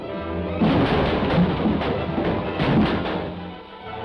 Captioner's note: crashing; dramatic music